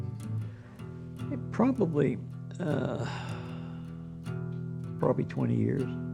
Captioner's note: sigh